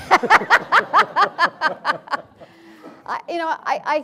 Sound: audience and panel laughing

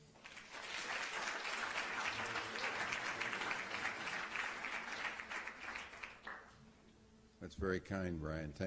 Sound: applause

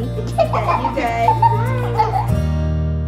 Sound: laughter

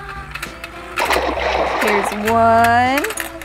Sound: water splashes

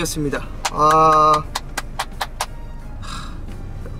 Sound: applause

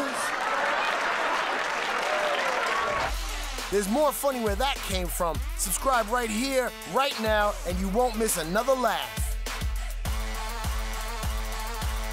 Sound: cheers and applause

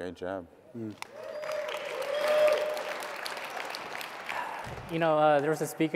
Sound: audience clapping and cheering

